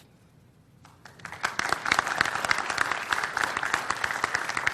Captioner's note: audience applauds